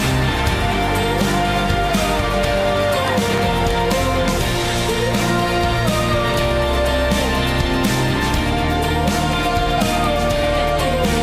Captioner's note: applause